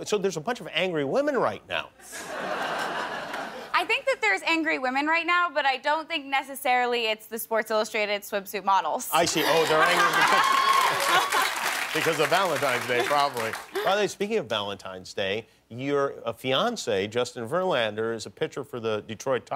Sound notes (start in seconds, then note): 2.1 laughter; 9.2 laughter; 9.6 cheers and applause